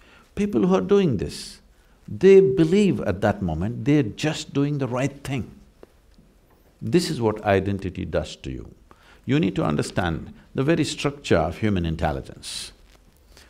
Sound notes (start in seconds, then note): none